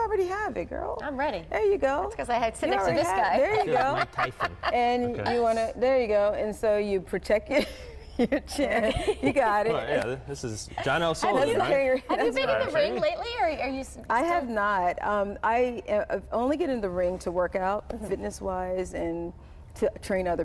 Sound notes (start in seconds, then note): 7.5 laughter; 12.8 laughter